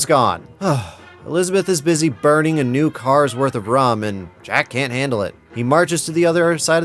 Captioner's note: sigh